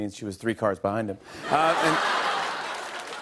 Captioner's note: laughter and applause